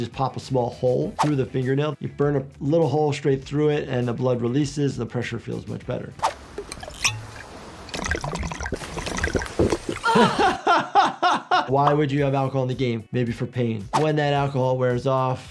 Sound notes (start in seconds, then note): 6.5 bottle cap squeaks; 7.8 liquid sloshes; 10.0 laughs